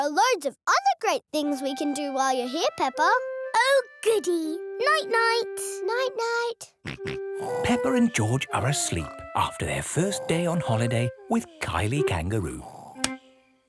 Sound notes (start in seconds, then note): 7.4 snorts; 7.4 snores